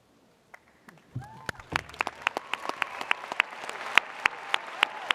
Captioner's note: audience cheers